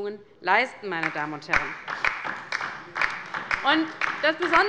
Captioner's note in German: Beifall bei der LINKEN